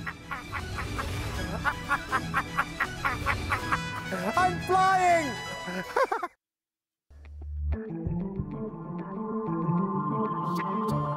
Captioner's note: maniacal laughing